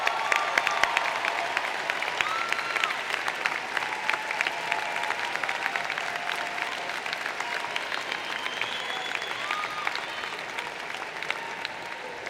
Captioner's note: applause